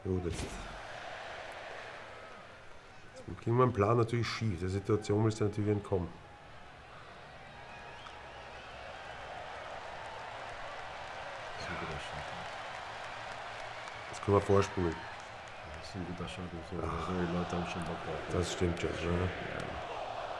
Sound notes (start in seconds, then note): 6.2 applaus